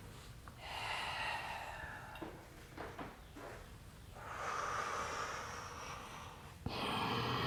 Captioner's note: deep breathing